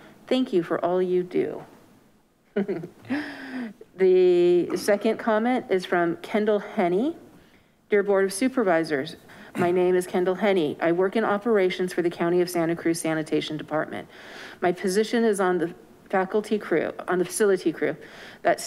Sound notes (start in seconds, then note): 2.5 clerk laughs